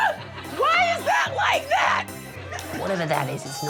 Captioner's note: screaming